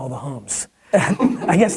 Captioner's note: laughing offscreen